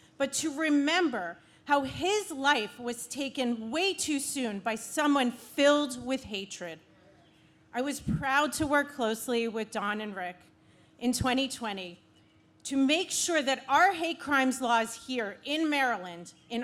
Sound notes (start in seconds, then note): none